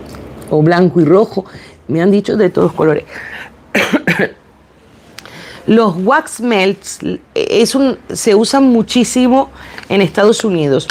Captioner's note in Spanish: carraspeo